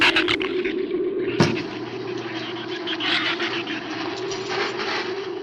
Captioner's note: shrew snarls; flames hiss